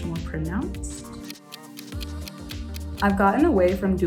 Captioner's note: clock ticking